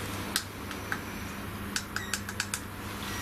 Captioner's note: clicking